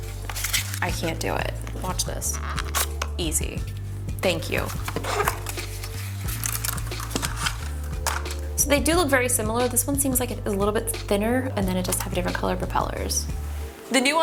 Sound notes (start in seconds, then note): 5.7 drones clinking